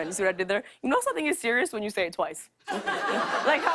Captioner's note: laughter